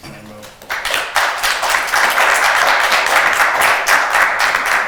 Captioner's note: attendees applauding